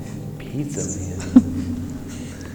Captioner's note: chuckles